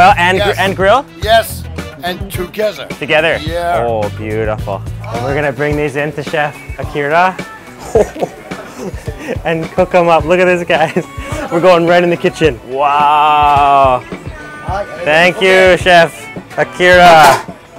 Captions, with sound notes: - Boil, and grill? - Yes, and together. - Together! - Yeah. - Oh beautiful. We're gonna bring these in to Chef Akira, (laughs) and cook 'em up. Look at this, guys. We're going right in the kitchen. Wow! Thank you Chef Akira.